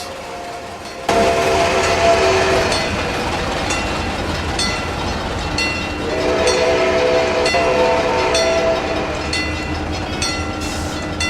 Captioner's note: steam engine whistle